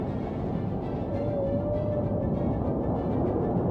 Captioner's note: lowing